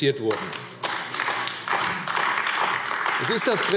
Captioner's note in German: Beifall AfD